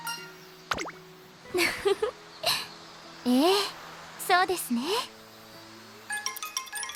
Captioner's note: laughs